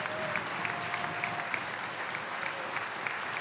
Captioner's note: applause